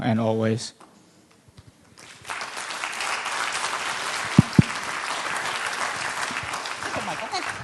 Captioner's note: applause